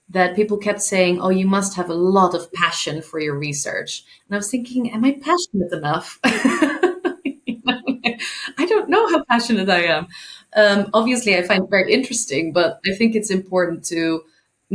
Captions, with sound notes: that people kept saying, "Oh, you must have a lot of passion for your research." And I was thinking, am I passionate enough? (laughing) I don't know how passionate I am. Obviously I find it very interesting, but I think it's important to